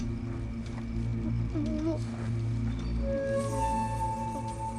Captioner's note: stammering